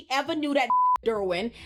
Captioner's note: beep